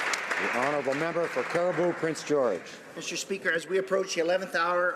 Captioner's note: applause